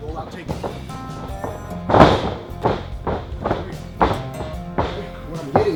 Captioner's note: rustling sound